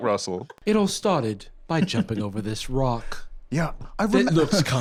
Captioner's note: BBC announcer voice